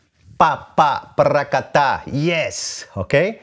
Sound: vocalizes rhythm

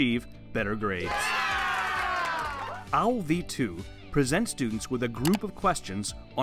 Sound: applause

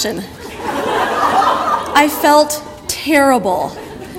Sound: audience laughter

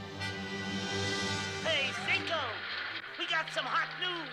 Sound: howl

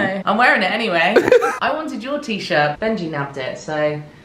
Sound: laughs

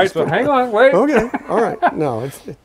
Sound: laughing

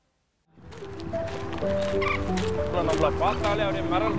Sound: bird singing

